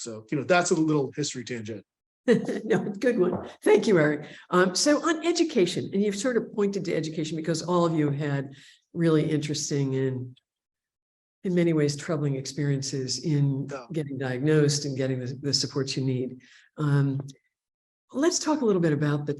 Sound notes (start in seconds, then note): 2.3 laughing